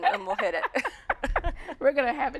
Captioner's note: laughing